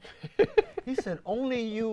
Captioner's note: laughs